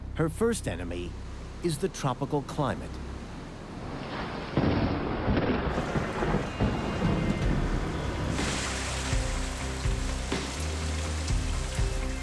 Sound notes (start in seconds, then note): 4.5 thunder claps; 8.6 rain pelting